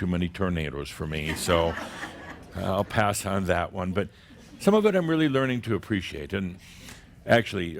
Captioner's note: more chuckles